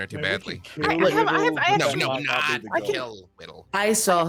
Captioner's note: group chattering